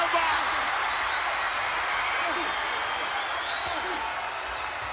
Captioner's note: crowd cheering